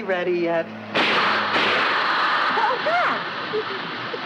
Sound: tires popping and hissing

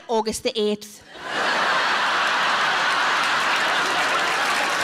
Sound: audience laughs

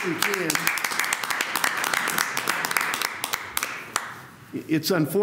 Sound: applause

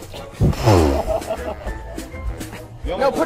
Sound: indignant splutter

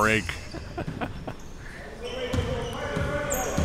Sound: laughing

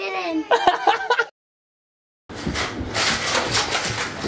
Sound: laughs

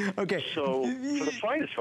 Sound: laughter

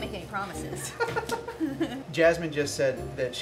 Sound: laughing

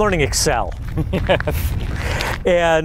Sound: laughter

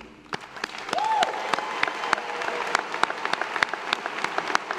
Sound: audience applauding

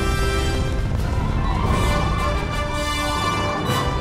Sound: freeze-breath blowing

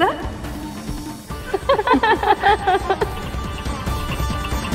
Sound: laughs

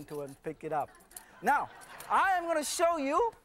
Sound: laughter

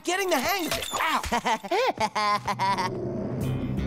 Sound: laughing

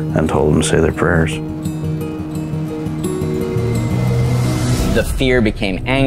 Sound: guitar music continues; rising impact sound

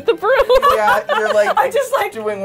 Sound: laughs

